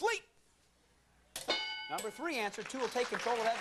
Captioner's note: bell dinging